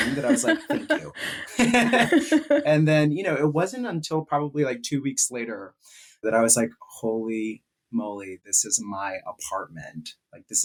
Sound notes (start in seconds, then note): 0.0 both laughing